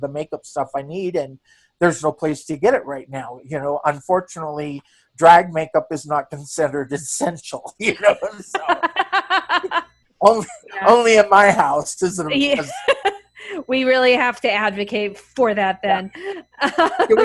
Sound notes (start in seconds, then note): 7.8 laughs; 13.0 laughs